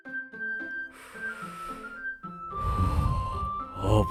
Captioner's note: takes deep breath